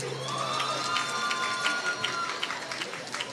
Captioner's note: applause